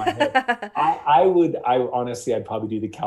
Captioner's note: laughing